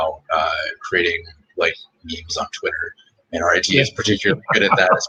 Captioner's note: laughter